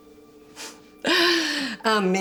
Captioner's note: Fredriech chuckling